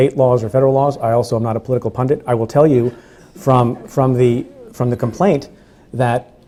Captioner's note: stutters